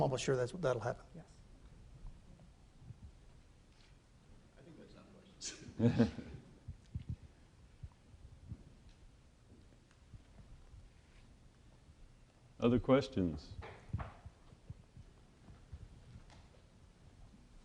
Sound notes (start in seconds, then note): 5.4 chuckling